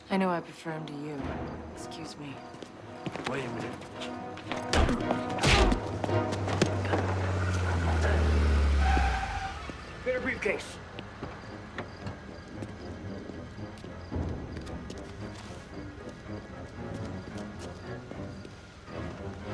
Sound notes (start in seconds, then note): 4.6 punch thuds; 5.5 tense music; 8.4 car rumbles; 12.4 tense music continues